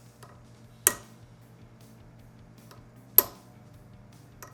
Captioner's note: hammer pounding